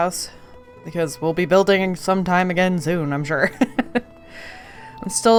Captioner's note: laughs